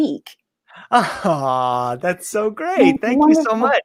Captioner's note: laughs